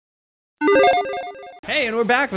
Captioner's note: video game chime beeps